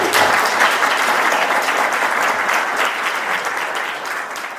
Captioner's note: audience applauding